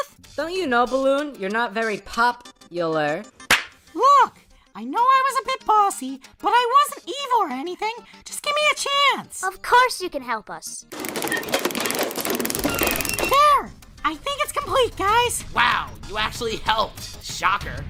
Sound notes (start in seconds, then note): 3.5 knee slap; 11.0 metal creaking